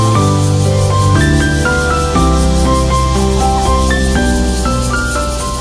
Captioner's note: sound of cicadas chirping